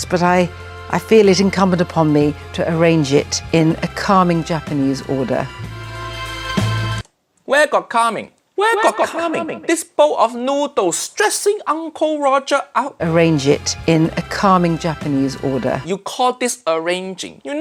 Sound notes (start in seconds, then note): 8.6 echo